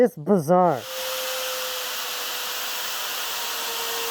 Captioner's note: saw buzzing